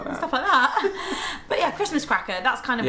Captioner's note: both laugh